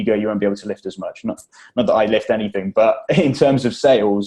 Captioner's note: laughs